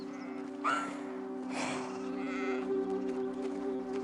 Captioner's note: crying